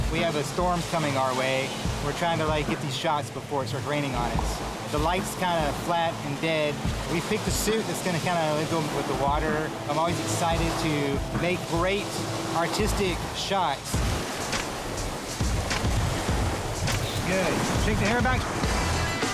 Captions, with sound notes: - We have a storm coming our way. We're trying to get these shots before it starts raining on us. The light's kinda flat and dead. We picked a suit that's gonna kinda go with the water. I'm always excited to make great, artistic shots. (waves crashing) (upbeat music) Good, shake the hair back?